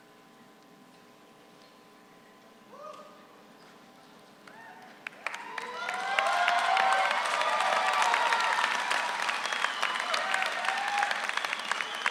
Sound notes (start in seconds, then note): 5.0 audience applauds